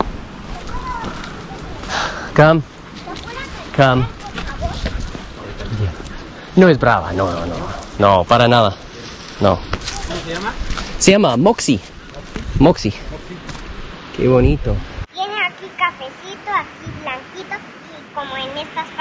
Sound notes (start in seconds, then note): 6.8 speaking Spanish; 15.5 girl speaking Spanish